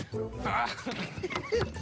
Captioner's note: laughs